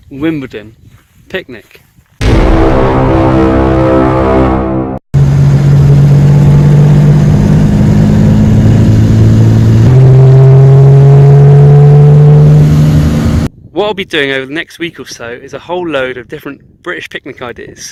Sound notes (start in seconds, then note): 2.2 intro music; 5.1 car driving noises